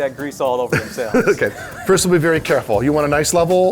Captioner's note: laughter